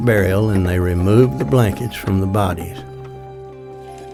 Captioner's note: wagon clatters